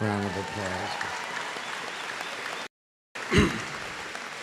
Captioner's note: applause